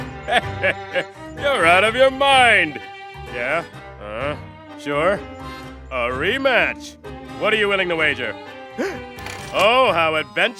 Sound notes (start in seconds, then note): 8.7 gasps